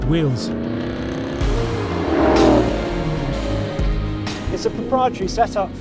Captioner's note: engine revving